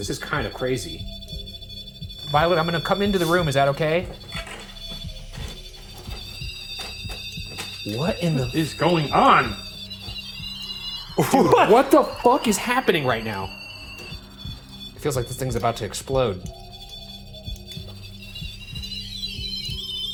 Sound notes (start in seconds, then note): 4.2 continuous beeping; 9.8 continuous beeping; 13.6 continuous beeping; 16.8 continuous beeping